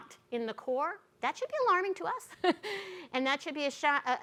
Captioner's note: chuckles